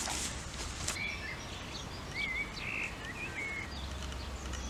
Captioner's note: nature sounds